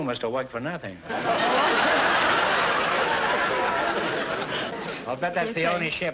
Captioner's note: audience laughter